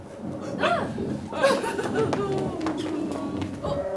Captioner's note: items rustling